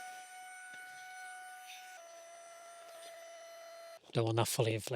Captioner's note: quiet whirring noise